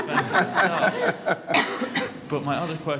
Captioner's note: audience laughing